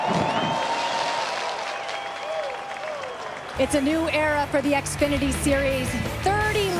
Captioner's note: cheers and applause